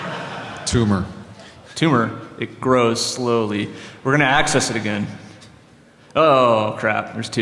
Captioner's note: laughter